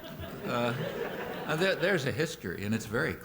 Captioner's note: laughter